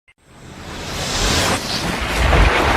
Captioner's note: whooshing